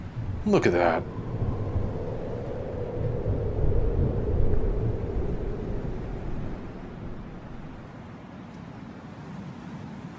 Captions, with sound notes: Look at that! [Rustling Wind Sounds]